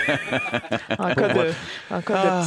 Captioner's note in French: rires